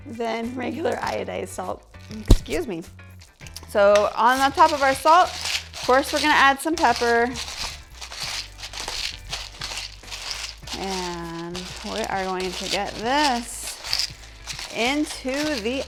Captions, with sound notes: than regular iodized salt. Excuse me! So on the top of our salt, of course we're gonna add some pepper (grinding). And we are going to get this into the oven.